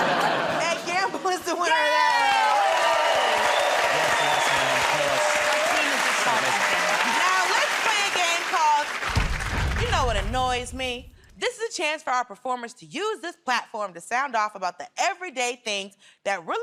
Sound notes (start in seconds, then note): 3.4 cheers and applause